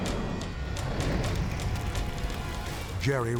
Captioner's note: fire whooshes